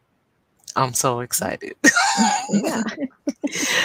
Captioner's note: laughs